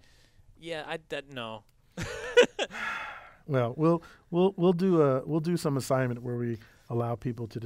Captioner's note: laugh